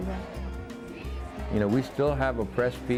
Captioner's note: chanting